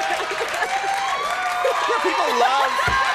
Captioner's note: audience cheers